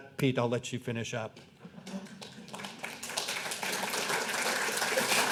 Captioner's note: clapping